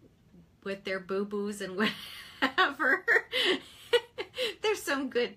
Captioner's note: chuckles